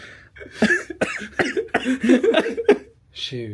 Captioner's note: coughs